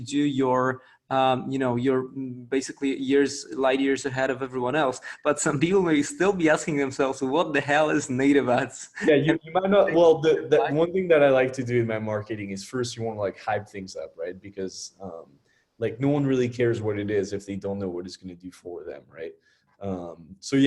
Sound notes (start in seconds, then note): 8.9 laughs